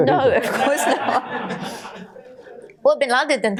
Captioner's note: audience laughter